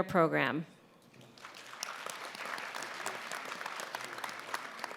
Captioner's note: applause